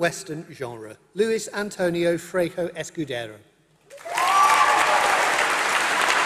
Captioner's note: applause